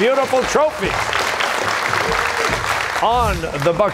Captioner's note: cheers and applause